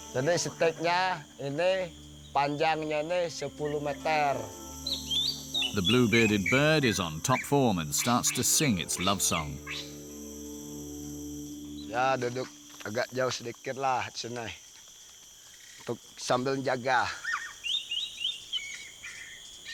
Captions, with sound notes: The blue-bearded bird is on top form and starts to sing its love song. [*Bahasa Malaysia* spoken audio]